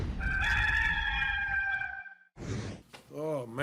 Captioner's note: rooster caws